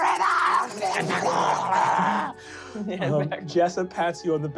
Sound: skittering and hissing

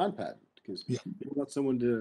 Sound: speaking faintly

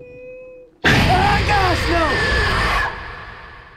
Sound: monster screaming

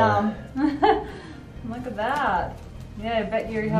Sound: laughs

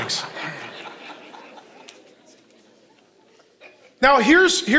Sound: congregation laughing

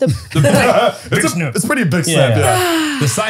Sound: they laugh

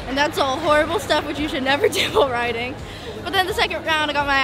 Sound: chuckles

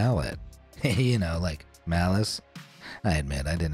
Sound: chuckles

